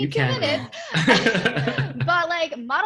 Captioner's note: laughing